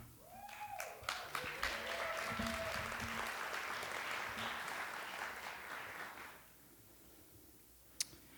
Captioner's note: applause